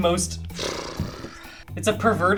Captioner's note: sighs